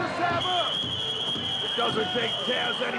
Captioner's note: whistling